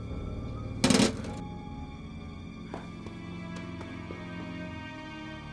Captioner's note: glass clatters in sink